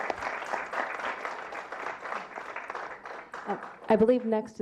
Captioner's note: clapping